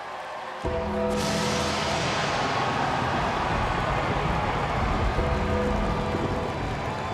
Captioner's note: audience cheering; lightning crashing